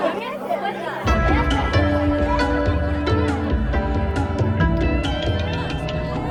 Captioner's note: crowd and band chattering